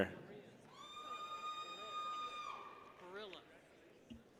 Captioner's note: people cheer